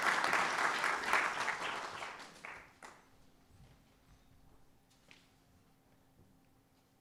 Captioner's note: applause